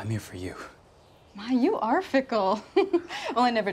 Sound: laughs

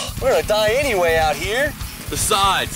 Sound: heavy metal music; sighing

